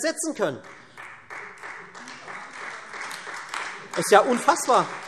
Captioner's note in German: Beifall Freie Demokraten und vereinzelt SPD, AfD